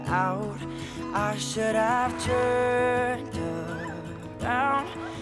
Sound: sobs loudly

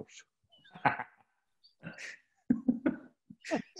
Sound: laughing

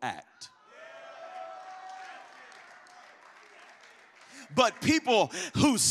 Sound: congregation cheers

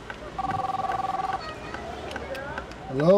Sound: phone ringing

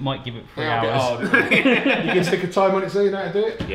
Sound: all laugh

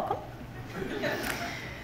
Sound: laughter from the audience

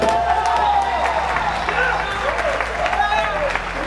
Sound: crowd cheering

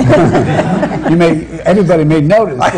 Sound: laughter

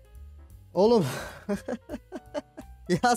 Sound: laugh

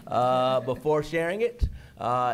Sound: laughter

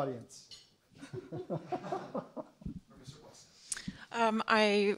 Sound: laughs, man mumbles in background

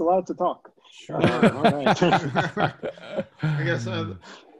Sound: laughter

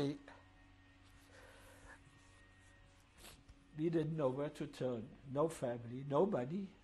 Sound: pauses for 3 seconds

